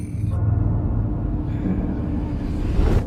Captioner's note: wind whistling